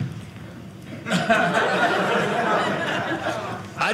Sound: audience laughing

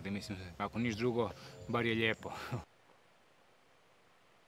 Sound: laughs

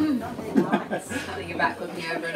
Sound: laughing

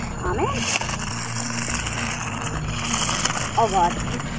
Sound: wheels scraping

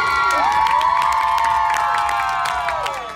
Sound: cheering

